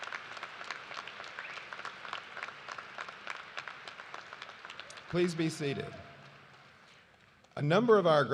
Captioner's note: cheers and applause